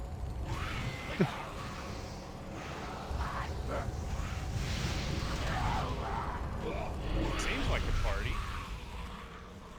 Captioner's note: laughs